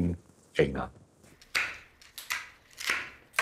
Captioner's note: cutting noises